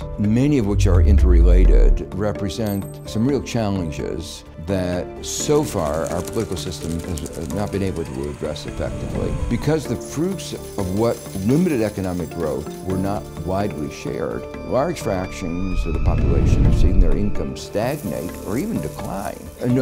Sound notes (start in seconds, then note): 6.0 paper shredding; 9.6 chiming bells